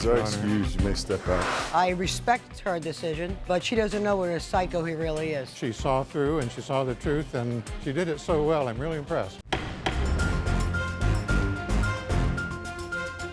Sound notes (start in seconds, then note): 9.5 gavel bangs; 9.5 dramatic music